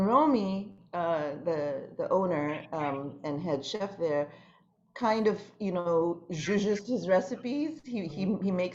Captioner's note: non-english